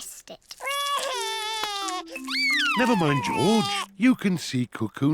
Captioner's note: sobs